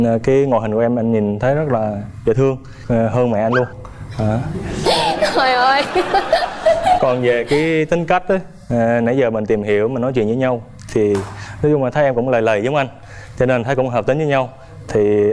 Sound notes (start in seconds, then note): 4.8 laugh